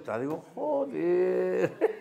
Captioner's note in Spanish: ríe